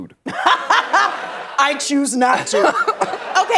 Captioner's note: laughs